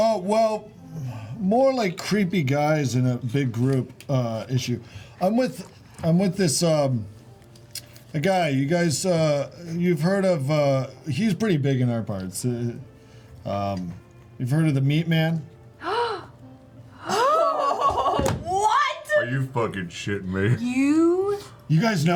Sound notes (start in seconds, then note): 15.8 gasping